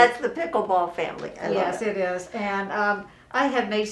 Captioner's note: laughs